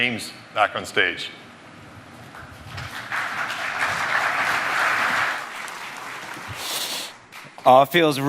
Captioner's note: applause